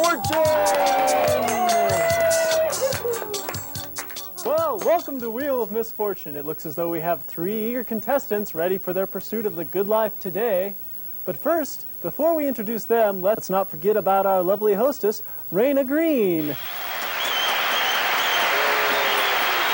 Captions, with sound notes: (cheering) - Well, welcome to Wheel of Misfortune. It looks as though we have three eager contestants ready for their pursuit of the good life today. But first, before we introduce them, let's not forget about our lovely hostess, Raina Green. (audience clapping)